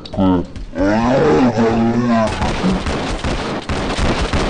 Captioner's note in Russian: звуки умирающего тюленя